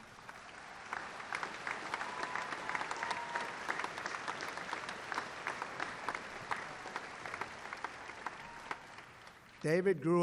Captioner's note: applause